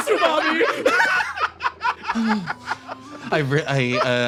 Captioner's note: laughs